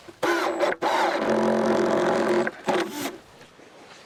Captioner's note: tool whirs